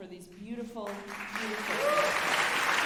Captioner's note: drowns by applause